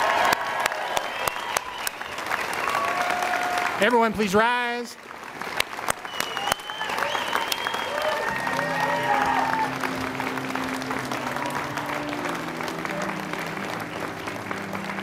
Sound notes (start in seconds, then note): 1.8 cheering and applause